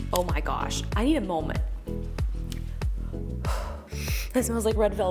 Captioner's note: exhaling deeply